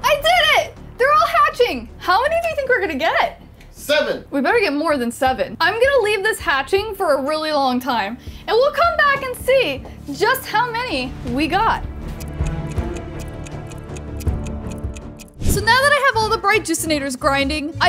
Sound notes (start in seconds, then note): 12.0 clock ticks